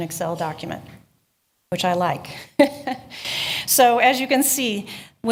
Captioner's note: chuckling